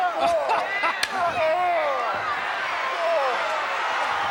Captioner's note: laughs